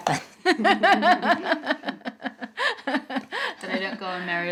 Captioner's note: Alice's Mom laughs